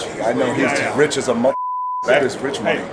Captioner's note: beep